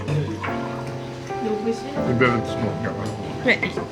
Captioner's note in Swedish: harklar sig